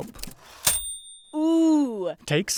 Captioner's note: bell dings